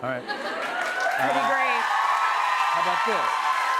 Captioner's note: cheers and applause